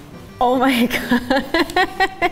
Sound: laughs

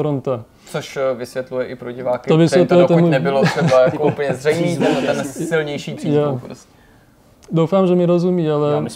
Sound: laugh

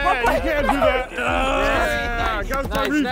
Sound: contestant grunting

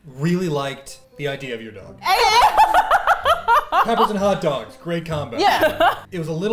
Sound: laugh

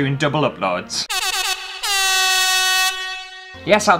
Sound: air Horn Sounds

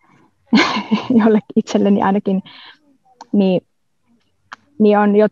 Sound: laughs

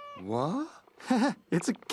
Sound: chuckles

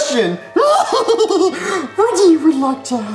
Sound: laughs

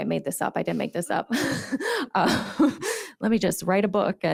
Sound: chuckles

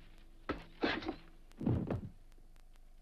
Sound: body thuds

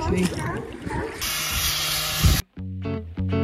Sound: sanding

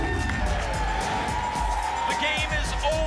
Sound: applause and cheering

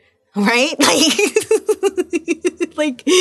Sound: laughing

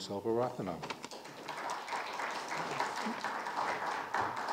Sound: audience clapping

